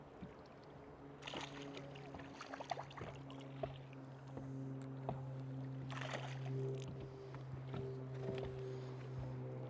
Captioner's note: splash